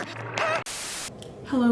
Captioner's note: TV Static